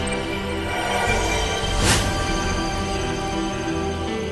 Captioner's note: energy whooshes